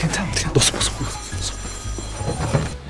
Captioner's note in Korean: 전화 벨소리 - 계속